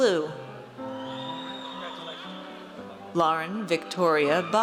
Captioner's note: audience cheers